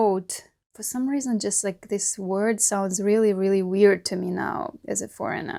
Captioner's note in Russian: на английском